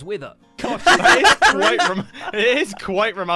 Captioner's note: laughing